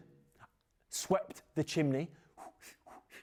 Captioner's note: puffs